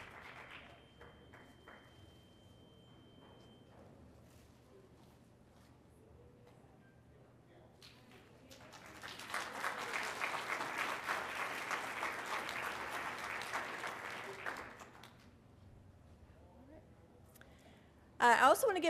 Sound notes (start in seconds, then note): 3.6 applause